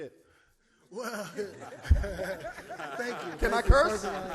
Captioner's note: laughs